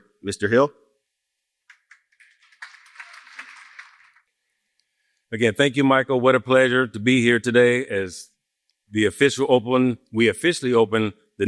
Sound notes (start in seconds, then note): 1.7 applause